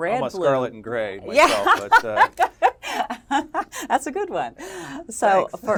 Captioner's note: laugh